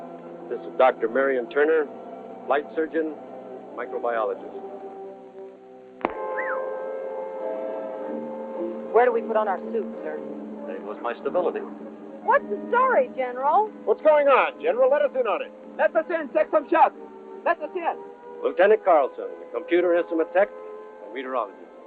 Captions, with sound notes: this is Dr. Marion Turner, flight surgeon, microbiologist. [wolf whistling] Where do we put on our suits, sir? There goes my stability. What's the story, General? What's going on, General? Let us in on it. Let us in and take some shots. Let us in! Lt. Carlson, computer instrument tech and meteorologist.